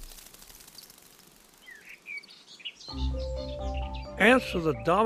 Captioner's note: birds chirping